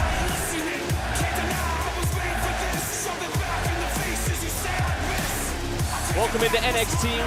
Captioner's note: fans chanting